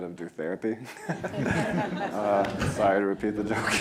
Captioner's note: laughing